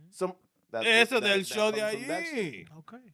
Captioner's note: speaking In Foreign Language